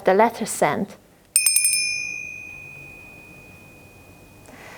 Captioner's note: bell rings